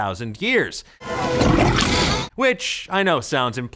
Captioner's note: gurgles